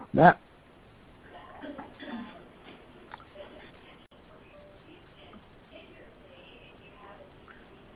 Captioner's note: silence